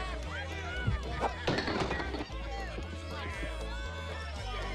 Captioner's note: bottles clinking